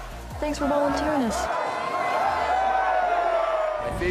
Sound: cheering

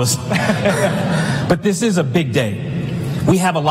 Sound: laughter

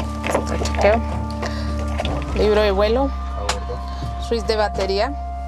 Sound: Spanish spoken audio

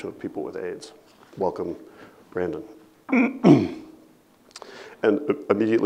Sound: clears throat

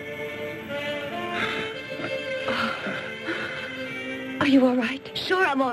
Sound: Toshio gasps

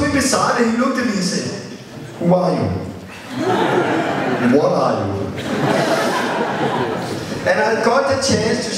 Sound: laughter

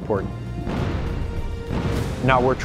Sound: cannons firing

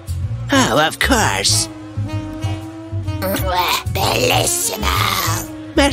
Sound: kiss sound

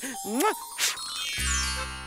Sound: bells ringing; kissing

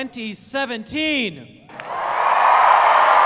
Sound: cheering

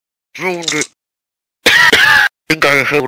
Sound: Flint dies of coughter

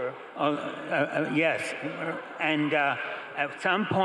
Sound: crowd laughing

